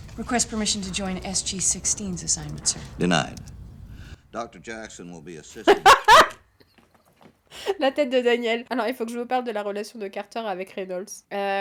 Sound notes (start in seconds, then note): 5.5 laughs